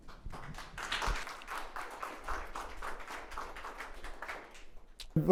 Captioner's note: audience applauds